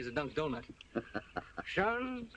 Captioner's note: laughs